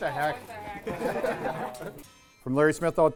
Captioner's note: laughing